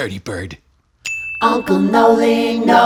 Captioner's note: ding!